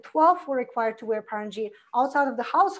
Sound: foreign language

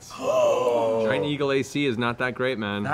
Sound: gasps

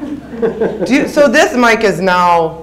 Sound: audience laughs

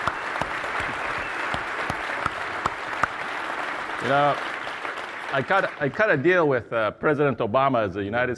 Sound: applause

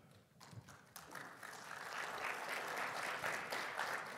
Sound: audience clapping

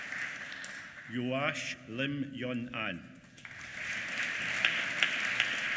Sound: applause

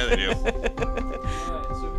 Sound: laughs

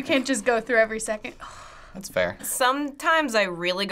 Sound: sighs

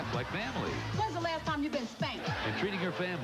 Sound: laugh track

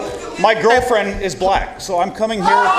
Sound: noise from audience

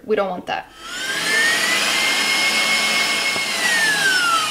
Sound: mixer whirring

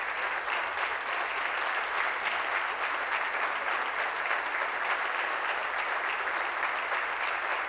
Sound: applause

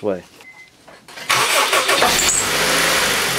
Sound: engine starts

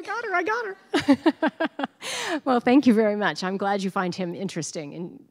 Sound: laughing

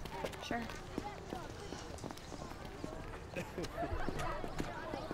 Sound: indistinct chatter

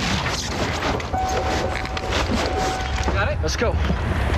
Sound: car makes "Door Ajar" sound; shoes squeak loudly on wet asphalt

